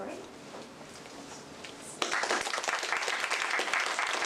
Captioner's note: applause